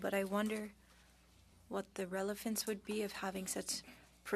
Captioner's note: speaking French